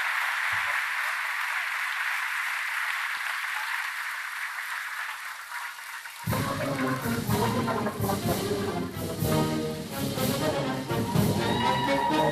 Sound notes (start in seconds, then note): 0.0 applause